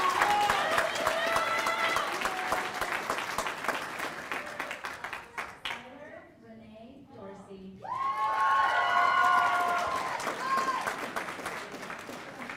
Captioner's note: cheers and applause